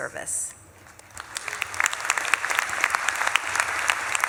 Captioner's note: audience claps